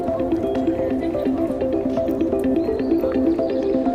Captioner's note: students talking